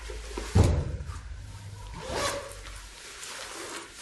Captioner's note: unzipping